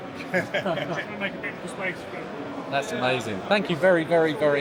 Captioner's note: laughs